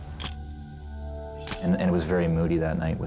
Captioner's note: shutter click